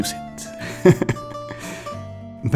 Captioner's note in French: Rires